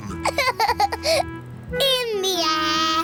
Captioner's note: laughs